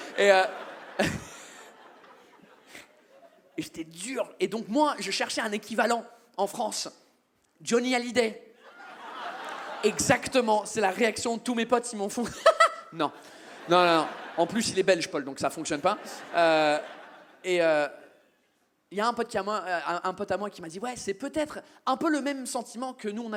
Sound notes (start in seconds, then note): 0.0 audience laughs; 9.0 audience cheers